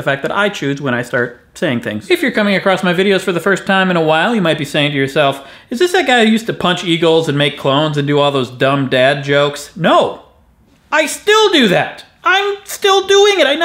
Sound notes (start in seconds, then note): none